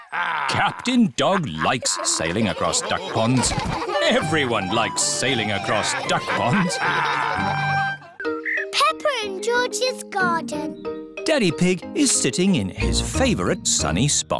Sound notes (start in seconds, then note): 6.5 all laughing